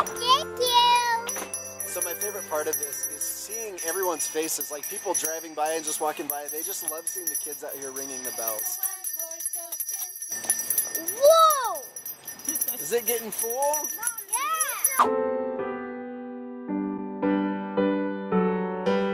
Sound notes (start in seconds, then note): 1.1 bell ringing; 8.8 bell ringing; 16.2 christmas music